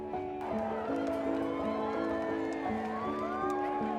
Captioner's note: crowd cheering; mellow piano music